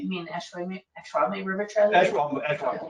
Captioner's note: speaking faintly